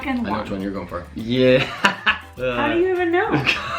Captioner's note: laughs